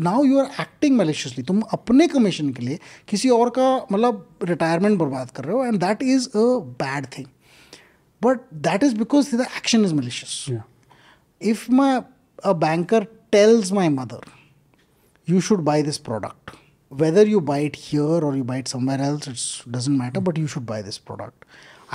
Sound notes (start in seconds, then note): 5.0 speaking in Hindi